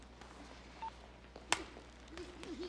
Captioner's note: phone beeps